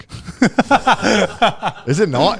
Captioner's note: all laughing